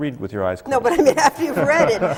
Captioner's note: laughter